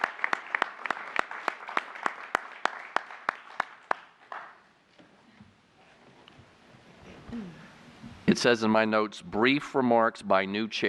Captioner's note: applause